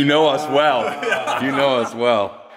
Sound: laughter

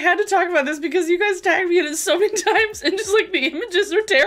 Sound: giggling

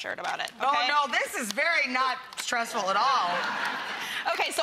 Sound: laughter

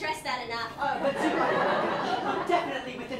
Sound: laughter

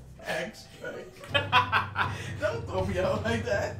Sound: laughing

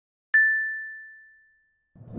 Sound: bell sound

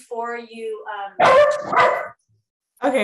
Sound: dog barking

